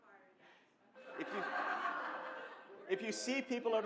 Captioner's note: someone speaks quietly; laughter